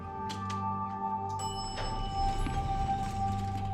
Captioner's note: elevator pings